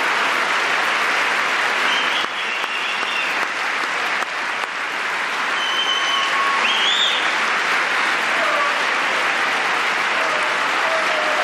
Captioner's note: applause